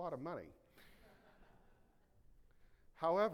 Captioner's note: audience laughing